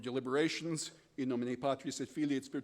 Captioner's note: speaking foreign language